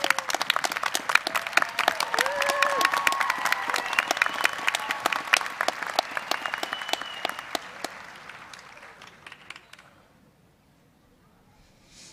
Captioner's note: applause